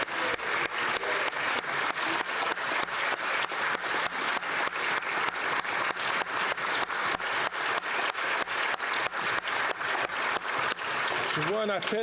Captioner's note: applause